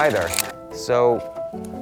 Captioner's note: film reeling